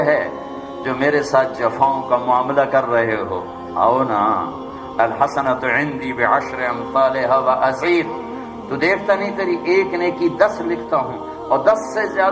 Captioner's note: Arabic